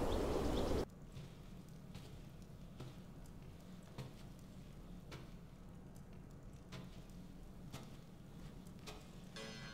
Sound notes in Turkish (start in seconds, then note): 1.0 Ayak sesi